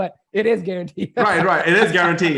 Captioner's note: laughs